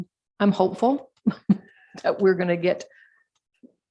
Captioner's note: chuckles